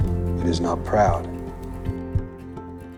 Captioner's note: voiceover